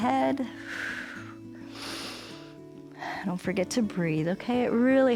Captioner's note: exhales and inhales